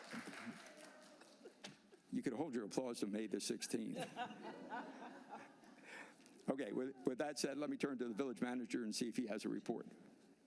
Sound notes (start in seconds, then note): 1.9 applause